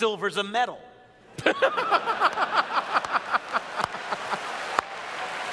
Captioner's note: laughter